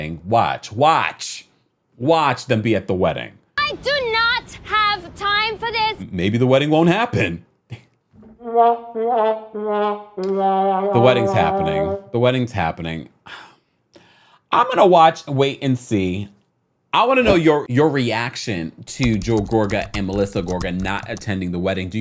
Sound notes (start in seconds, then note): 8.5 trumpet woefully wails; 13.3 sighs